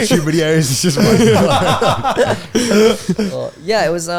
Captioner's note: all laughing